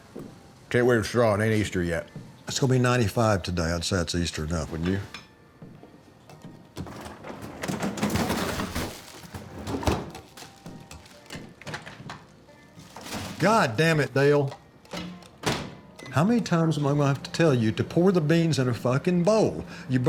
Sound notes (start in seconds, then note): 8.5 drawer thumps; 14.8 microwave beeps; 15.0 door thumps